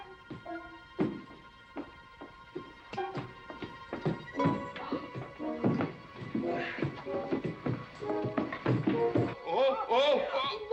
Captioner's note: clumsy footsteps up stairs